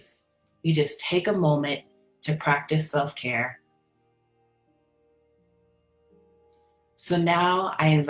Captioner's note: pause